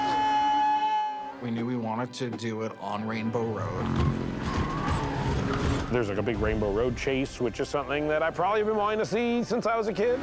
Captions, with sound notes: [screaming] We knew we wanted to do it on Rainbow Road. [tires screeching] There's a big Rainbow Road chase, which is something that I've probably been wanting to see since l was a kid.